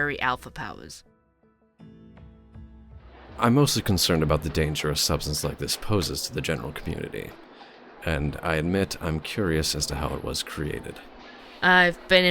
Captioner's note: ambience - coffee shop